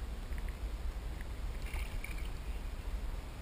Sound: splash

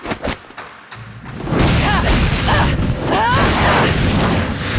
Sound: grunting

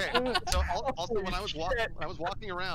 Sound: laughter

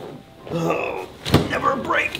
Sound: groaning

